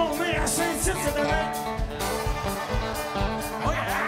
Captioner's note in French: cris d'enthousiasme